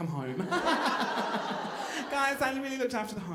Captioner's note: laughing